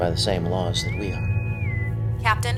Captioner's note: intercom whistles